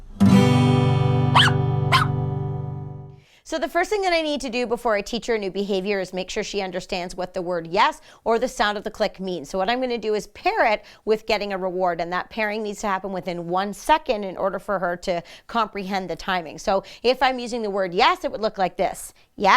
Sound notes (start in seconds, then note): 0.0 guitar strums; 1.3 barking